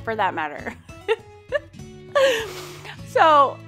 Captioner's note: laughs